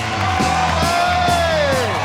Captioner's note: loud cheering